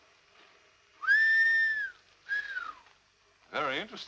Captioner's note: whistles